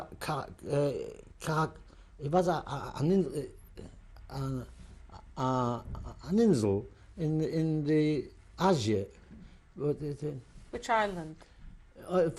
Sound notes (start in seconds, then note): 3.7 non-english